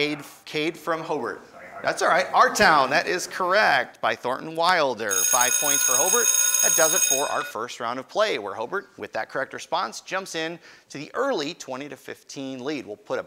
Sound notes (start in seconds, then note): 5.1 ringing